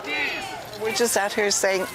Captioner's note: chants